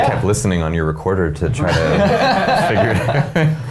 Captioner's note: men laughing